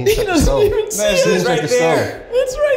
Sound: giggling

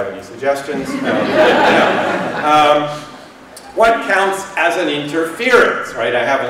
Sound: laughter

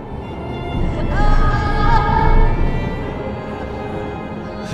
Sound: Vanessa groaning

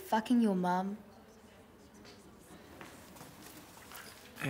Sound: pen sketching sounds

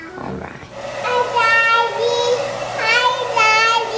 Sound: blowdryer huffing

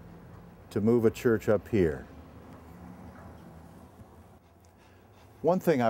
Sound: pause

